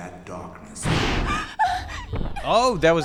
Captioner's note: scream and gasp